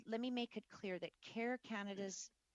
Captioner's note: speaking French